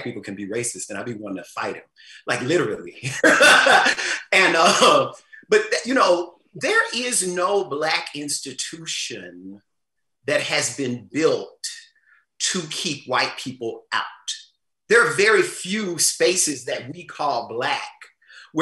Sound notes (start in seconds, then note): 3.0 laughs